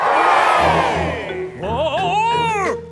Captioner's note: crowd cheers